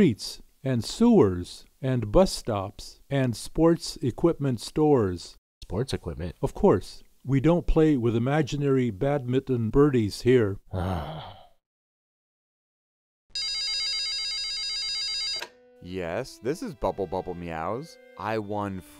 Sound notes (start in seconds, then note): 10.7 grumbling; 13.3 phone ringing